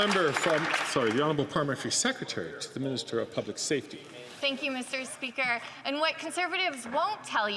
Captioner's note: some Applause